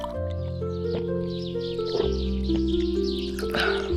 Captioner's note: gulping of a drink